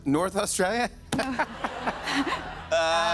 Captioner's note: laughter